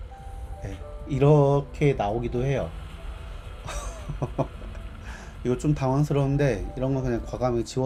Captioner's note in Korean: 웃음